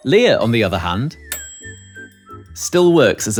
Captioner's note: ding